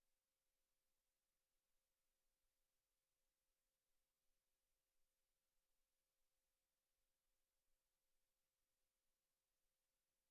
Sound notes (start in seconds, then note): none